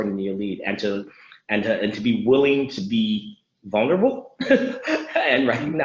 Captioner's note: laughs